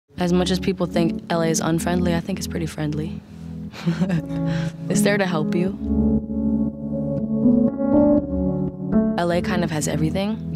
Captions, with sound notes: - As much as people think LA is unfriendly, I think it's pretty friendly. (laughs) It's there to help you. (soft music) LA kind of has everything.